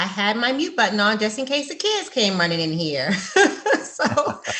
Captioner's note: laughs